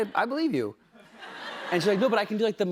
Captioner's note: laughter